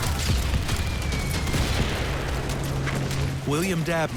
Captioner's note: explosions